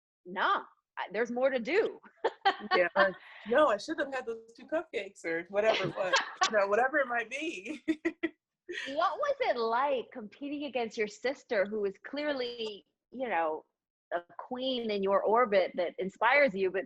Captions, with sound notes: no, there's more to do (laughs) - No, I shouldn't have (audio blurs) whatever it was, whatever it might be. - What was it like competing against your sister who was clearly the queen in your orbit that inspires you,